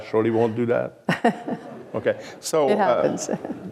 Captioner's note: chuckles